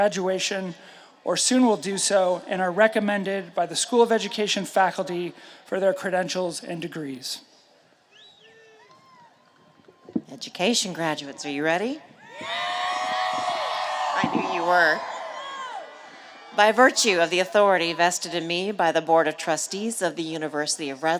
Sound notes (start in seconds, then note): 12.2 cheers and applause